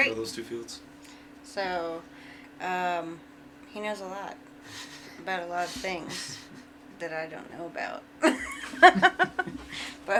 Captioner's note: laughs